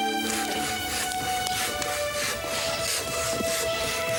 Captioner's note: dramatic music; saw scraping